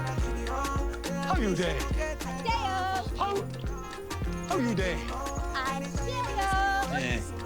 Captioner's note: speaking foreign language